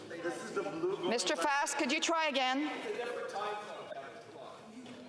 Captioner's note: none